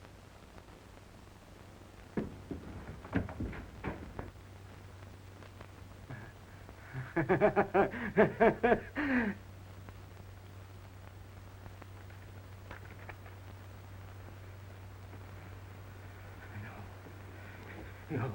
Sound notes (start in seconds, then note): 2.2 door clicks open; 6.8 Regis laughs